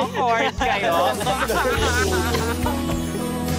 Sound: laughter continues

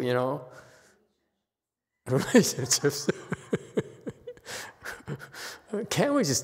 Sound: laughs

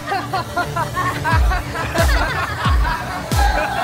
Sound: laughing

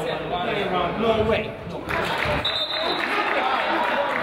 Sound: crowd applauds; whistle blows; crowd chatters

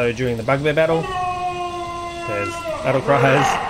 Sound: battle roar

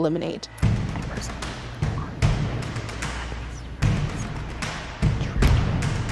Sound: intense music; group whispering

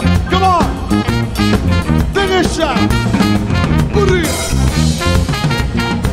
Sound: speaks foreign language

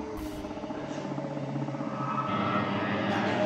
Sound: gasping; eerie music

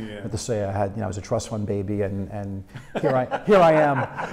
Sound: laughing; laughs

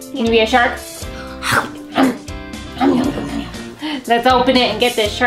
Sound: mom make shark noises

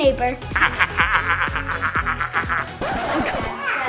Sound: evil laugh

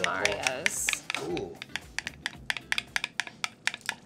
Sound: stirring

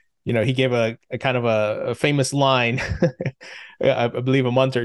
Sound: laughs

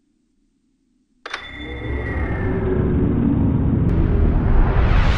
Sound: power turning on

